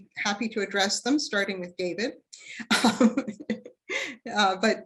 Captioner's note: chuckles